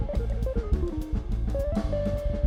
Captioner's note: none